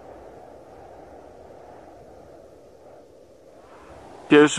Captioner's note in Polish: szum wiatru